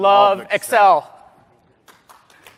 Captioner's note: applause